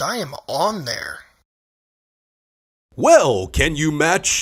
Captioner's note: awkward silence